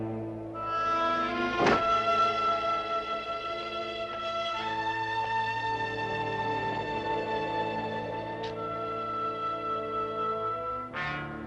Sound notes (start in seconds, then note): 1.6 door thuds